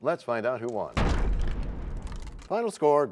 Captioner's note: crashing sound